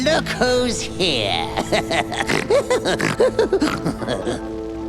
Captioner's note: laughing